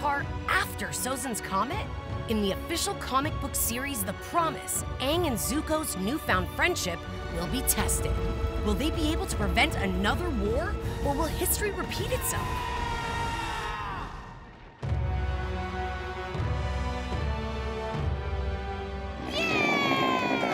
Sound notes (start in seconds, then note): 12.2 screaming